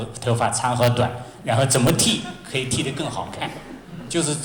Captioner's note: laughter